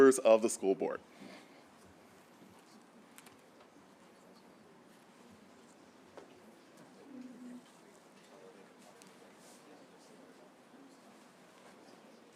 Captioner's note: group of people talking